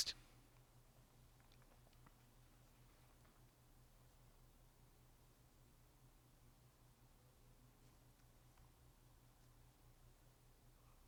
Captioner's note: pauses 29 seconds